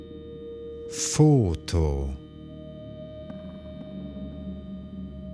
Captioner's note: german